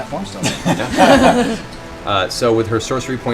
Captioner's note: laughter